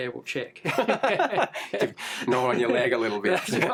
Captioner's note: laughing